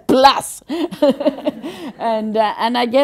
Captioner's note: general laughter